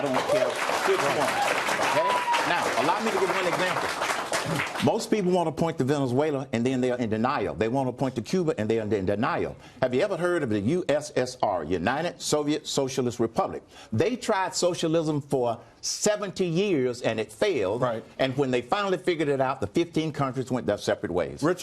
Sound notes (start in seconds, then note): 4.2 applause